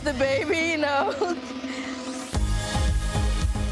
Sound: laughs; calm upbeat music

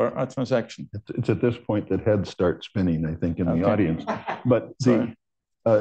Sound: laughter

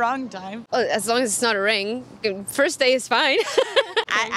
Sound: laughs

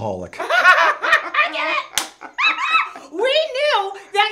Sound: parents laughing

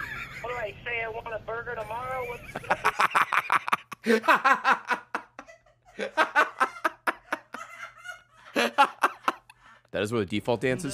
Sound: laughs; laughing in the background; laughs

